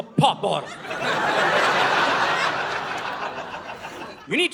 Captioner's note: audience laughing